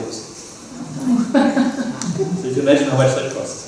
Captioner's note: surprised reaction from audience